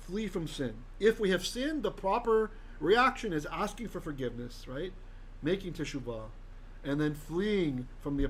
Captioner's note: Hebrew